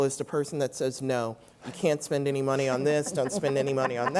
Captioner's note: laugh